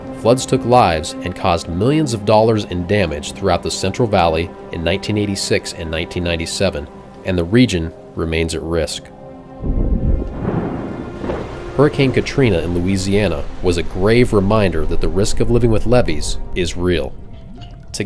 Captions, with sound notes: Floods took lives and caused millions of dollars in damage throughout the Central Valley in 1986 and 1997, and the region remains at risk. (thunder crashes) Hurricane Katrina in Louisiana was a grave reminder that the risk of living with levees is real.